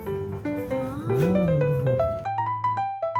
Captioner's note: praise in unison